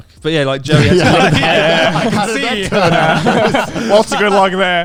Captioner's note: all laughing loudly